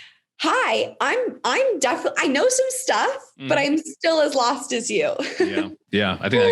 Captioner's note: laughs